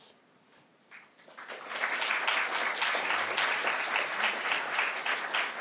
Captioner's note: crowd applauding